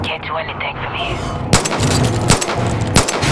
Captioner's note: gun firing